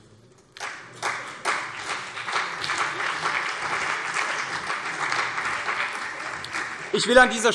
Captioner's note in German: Beifall CDU und vereinzelt SPD